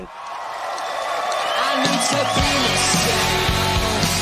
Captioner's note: people cheering